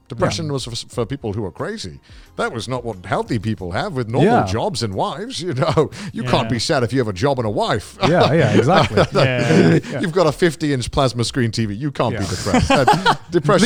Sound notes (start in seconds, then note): 8.0 laughs; 12.1 laughs